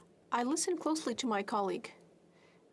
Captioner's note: speaking french